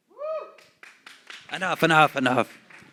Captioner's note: applause